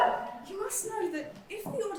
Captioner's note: audience whoop